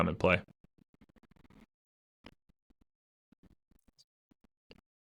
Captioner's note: audio cuts out